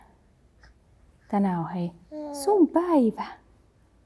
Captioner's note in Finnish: vauvan ääntelyä